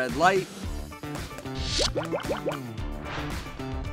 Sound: popping

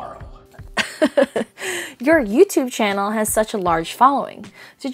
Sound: laughs

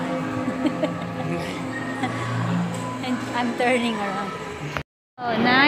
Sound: laughing

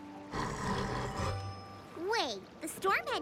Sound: purring

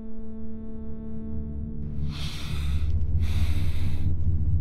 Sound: deep breath

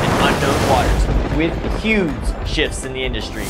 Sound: water whooshing

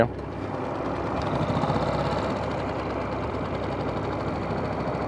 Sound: boat engine rattling

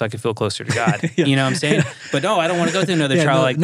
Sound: laughing

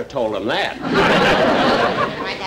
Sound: audience Laughing

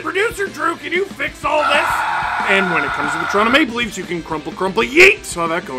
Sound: screaming

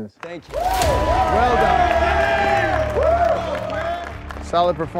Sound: cheering and applauding

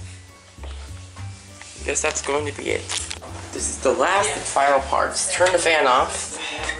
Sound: lens closing

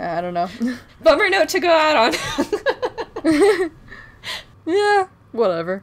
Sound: laughs

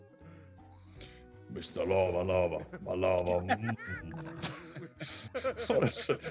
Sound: laugh

